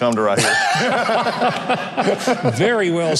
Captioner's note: both laugh